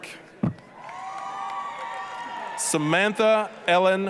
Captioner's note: applause, cheering